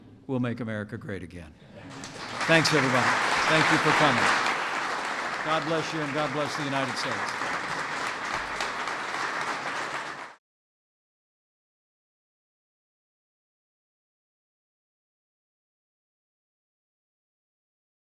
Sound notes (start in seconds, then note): 2.3 applause